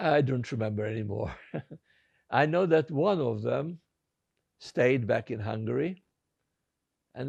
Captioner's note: laughing